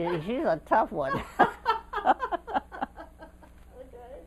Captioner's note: laughter